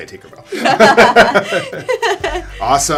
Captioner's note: duo laughs